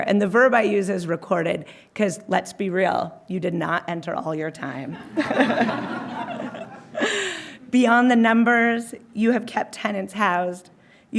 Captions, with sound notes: And the verb I use is recorded, 'cause let's be real, you did not enter all your time. (all laughing) Beyond the numbers, you have kept tenants housed.